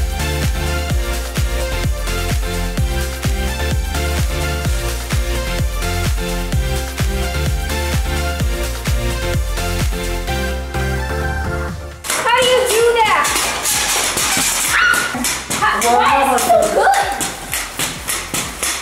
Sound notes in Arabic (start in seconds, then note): 14.7 صراخ